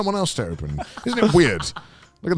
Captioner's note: laughs